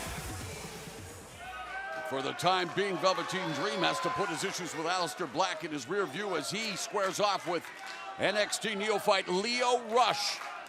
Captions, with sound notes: >> [CROWD CHATTER] >> FOR THE TIME BEING, VELVETEEN DREAM, HAS TO PUT HIS ISSUES WITH ALEISTER BLACK IN HIS REARVIEW AS HE SQUARES OFF WITH